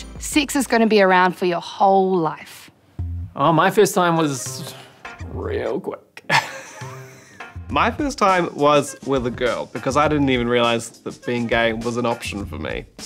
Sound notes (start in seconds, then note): 6.2 chuckles